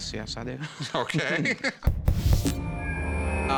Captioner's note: chuckles